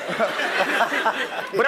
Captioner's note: laugh